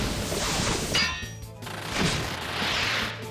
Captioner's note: clink